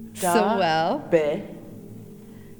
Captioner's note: In Mi’kmaq